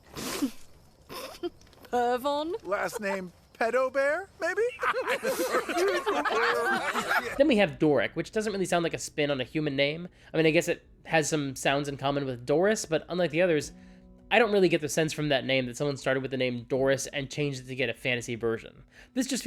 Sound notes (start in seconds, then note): 1.1 snickers; 4.6 laughter